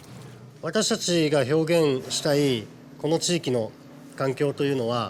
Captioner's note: speaking Japanese